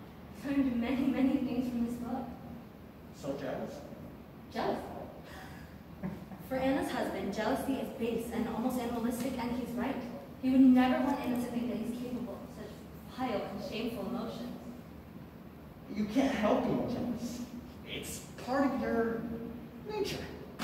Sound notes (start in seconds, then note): 5.9 Palomo chuckles